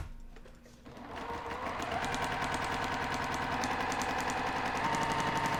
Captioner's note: sewing machine whirring